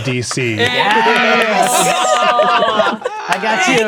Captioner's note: players celebrating